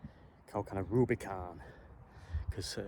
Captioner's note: American accent